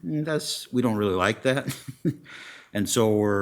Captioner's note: laughs